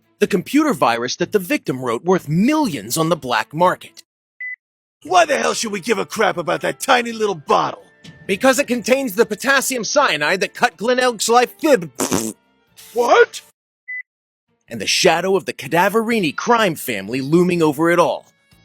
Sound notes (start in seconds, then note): 11.9 mouth fart